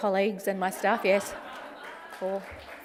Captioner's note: laughter and applause